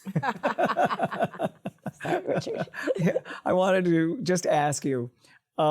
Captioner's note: laughter